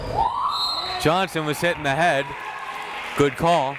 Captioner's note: whistle tweeting